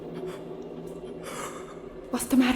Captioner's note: Paul gasping